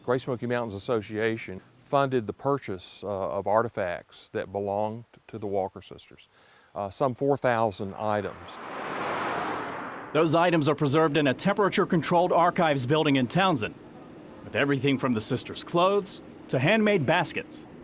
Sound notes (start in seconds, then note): 8.2 car drives